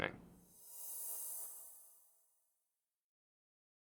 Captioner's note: screen whooshing